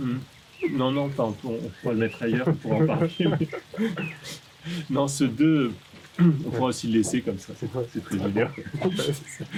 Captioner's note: laughs